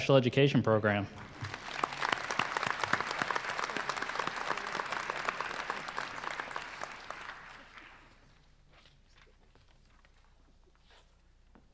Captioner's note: applause